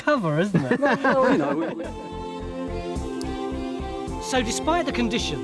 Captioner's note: all chuckling; lively, pleasant music